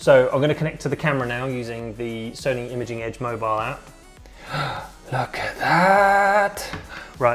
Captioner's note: gasp